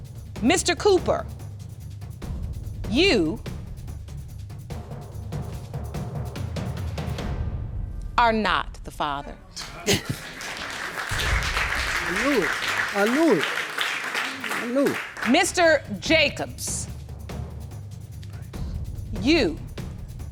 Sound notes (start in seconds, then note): 8.1 both men exclaim; 9.6 audience applauding